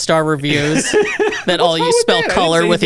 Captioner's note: laughs